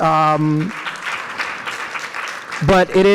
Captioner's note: audience applauds